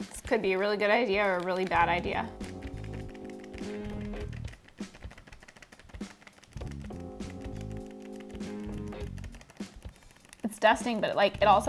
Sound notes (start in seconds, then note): 3.8 package rattles; 4.5 upbeat music